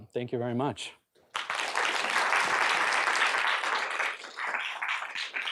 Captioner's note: applause